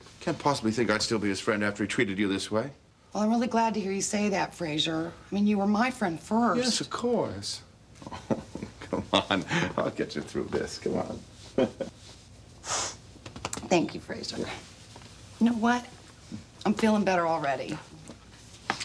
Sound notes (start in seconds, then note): 11.5 chuckling; 12.6 sniffling